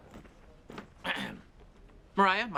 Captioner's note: ABED clears his throat